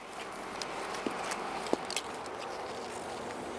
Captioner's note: sounds of traffic, clicking